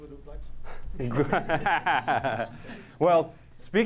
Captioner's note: laughter